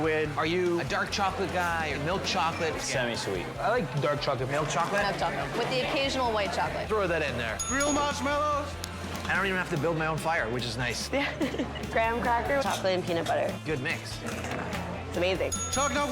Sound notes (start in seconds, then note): 7.6 bell dings; 11.2 laughing; 15.5 bell dings